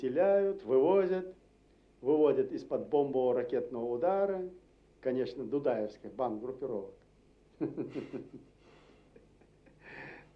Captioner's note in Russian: Смеется